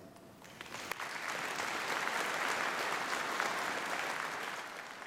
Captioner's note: applause